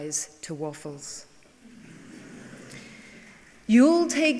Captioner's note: laughing